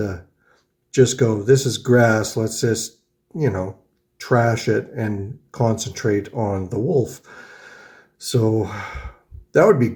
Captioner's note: sighs